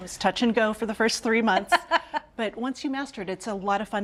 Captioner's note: Julia laughs